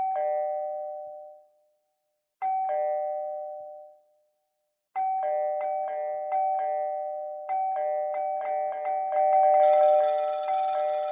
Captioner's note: ding Dong, Ring Ring